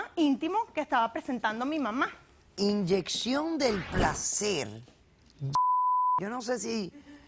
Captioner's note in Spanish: Bip